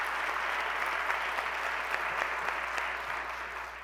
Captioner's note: applause